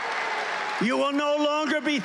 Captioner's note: cheering